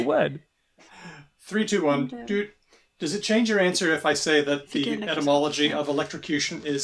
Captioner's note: beeps